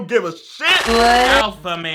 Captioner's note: distorted electronic sound